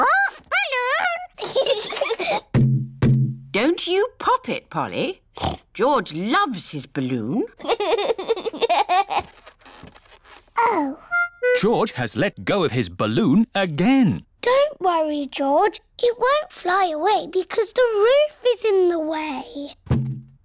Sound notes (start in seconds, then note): 1.3 both giggle; 5.4 snorts; 7.6 laughs